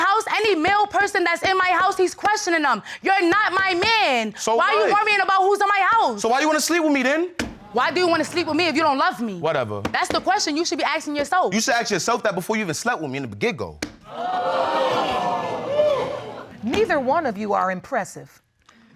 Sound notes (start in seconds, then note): 14.1 audience exclaiming